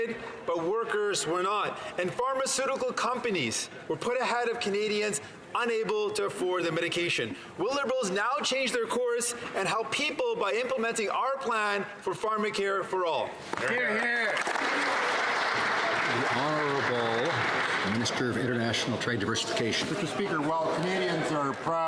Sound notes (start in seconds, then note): 17.0 some Applause